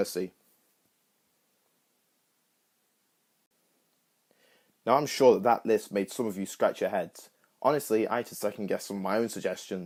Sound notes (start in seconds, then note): 0.2 awkward Silence